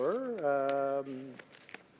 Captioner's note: some Applause